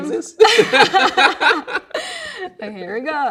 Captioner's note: both laughing; laughing